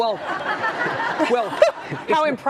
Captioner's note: audience laughing